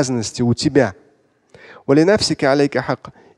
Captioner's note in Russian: Говорит на арабском